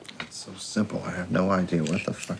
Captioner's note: cigarette pack rustling